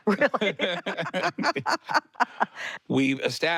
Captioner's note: both laugh